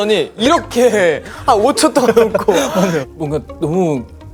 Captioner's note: burst out laughing